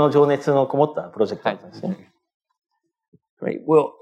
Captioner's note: speaking japanese